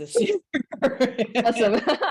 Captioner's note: both laughing